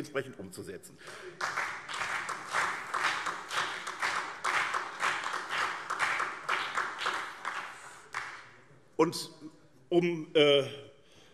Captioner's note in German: Beifall SPD und BÜNDNIS 90/DIE GRÜNEN